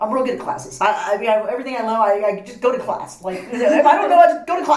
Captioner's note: laugh